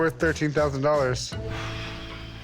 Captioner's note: exhales sharply